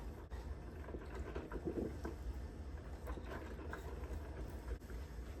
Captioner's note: coffee machine gurgles